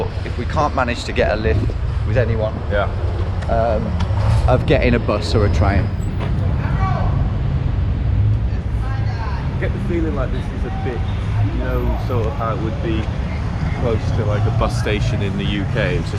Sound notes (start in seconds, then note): 7.0 man screaming